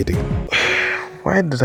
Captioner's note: exhales